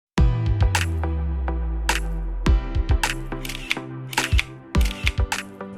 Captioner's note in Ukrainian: музика та звук затвору фотографічного